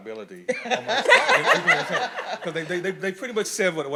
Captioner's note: audience laughing